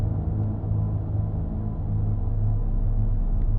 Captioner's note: rising dark, droning hum